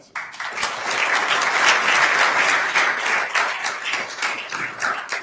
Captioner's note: attendees applauding